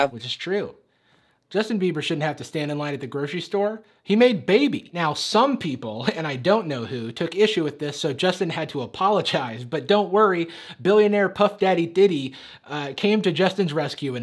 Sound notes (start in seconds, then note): none